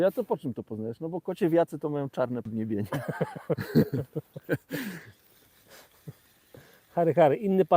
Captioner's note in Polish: śmiech